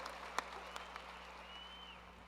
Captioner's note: cheers and applause